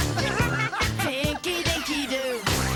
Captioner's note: all laugh